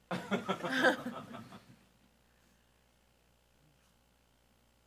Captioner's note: group laughs